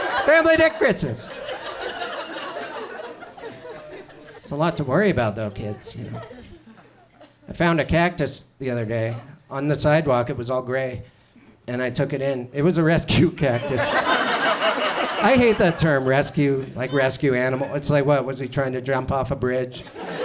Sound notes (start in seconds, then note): 1.7 audience chuckles; 13.5 audience laughs